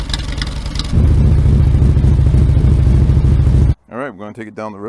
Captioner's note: stock mufflers at idle; Monster Ovals mufflers at idle